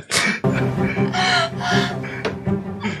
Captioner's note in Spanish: llora